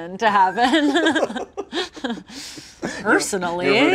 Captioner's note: laughing